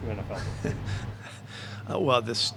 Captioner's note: laughs